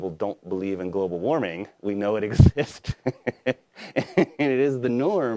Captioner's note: laughs